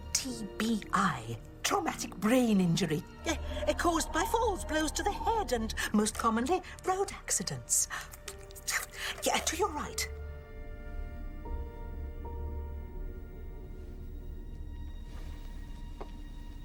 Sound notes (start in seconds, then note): 8.3 clicks tongue